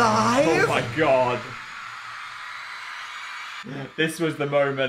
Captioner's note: crowd screaming